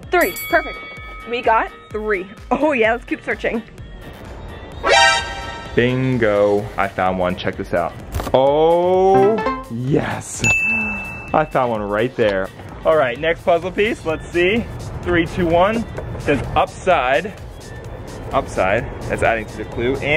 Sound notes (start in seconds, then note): 0.0 bell rings; 4.9 alarm; 9.1 chimes; 9.1 dings